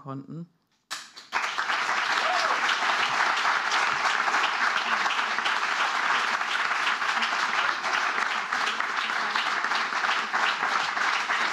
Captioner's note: applause